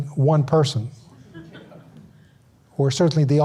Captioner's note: audience laughs